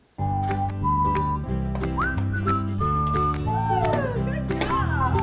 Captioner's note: melodic whistling